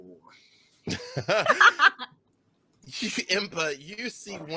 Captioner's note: laughing